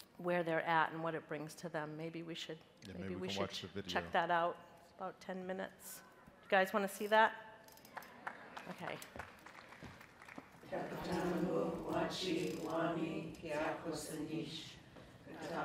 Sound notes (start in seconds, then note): 7.8 crowd; 7.9 crowd applauding; 11.0 women speaking in a foreign language